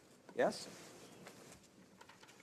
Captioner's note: speaking in french